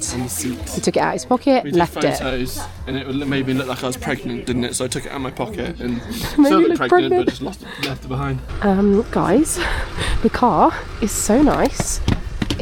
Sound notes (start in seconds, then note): 5.6 laughs